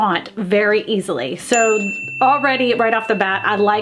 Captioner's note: bell dings